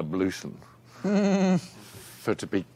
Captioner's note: gleeson chuckling